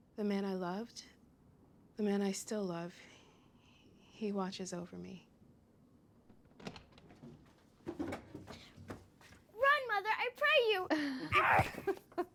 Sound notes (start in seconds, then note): 6.6 door opens; 11.2 chuckling